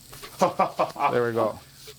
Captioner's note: chuckling